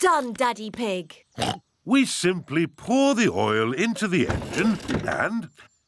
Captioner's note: oinks